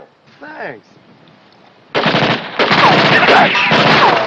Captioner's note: gunshots